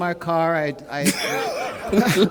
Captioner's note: laughter